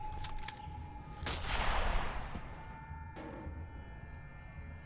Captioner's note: gun bangs